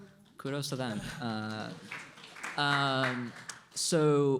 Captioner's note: applause